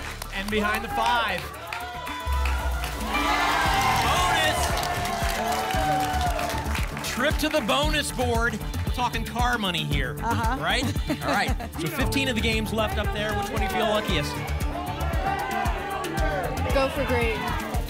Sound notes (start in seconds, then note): 5.3 applause and cheering; 15.3 audience shouting games